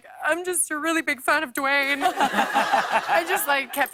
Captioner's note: laughter